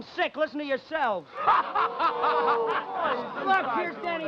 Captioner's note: men laughing